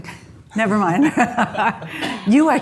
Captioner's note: laughs